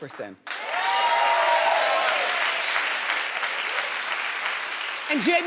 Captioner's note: audience applauding